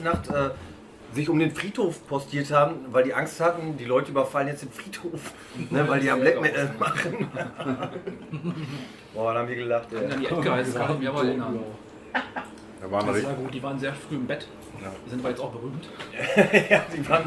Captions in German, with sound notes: die sich dann in die ganze Nacht um dem Friedhof postiert haben, weil die Angst hatten, die Leute überfallen jetzt den Friedhof, weil die ja Black Metal machen. [lachen] Boah, was haben wir gelacht, ey! An die Edguys kann ich mich auch erinnern: Das war gut. Die waren sehr früh im Bett, sind jetzt aber auch berühmt.